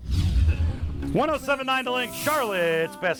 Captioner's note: radio Announcer